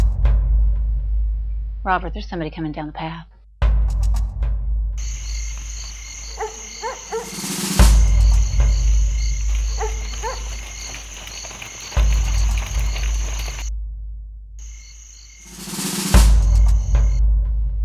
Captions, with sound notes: Now I hear some howlin', and here he come like a-- (dog barks) - Hush, listen. Robert, there's somebody comin' down the path. (crickets chirp) (dog barks)